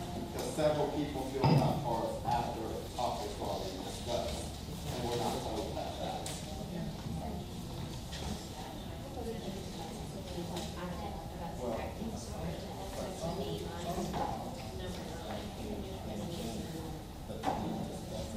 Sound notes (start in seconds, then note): 8.2 crowd noise